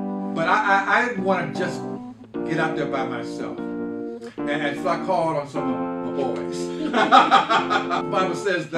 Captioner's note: chuckles